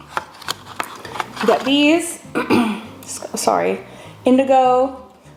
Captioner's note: clears throat